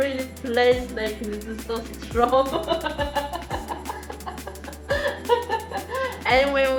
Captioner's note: laughs